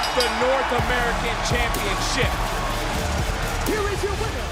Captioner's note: cheers